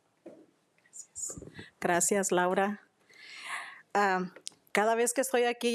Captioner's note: speaking Spanish